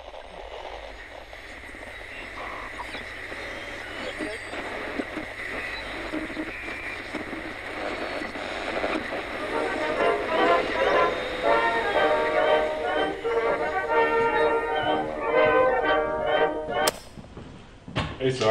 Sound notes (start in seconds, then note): 0.6 birds calling; 0.6 insects chirring; 4.9 person speaks faintly on radio; 16.8 radio knob clicks